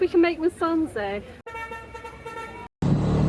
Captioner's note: car horn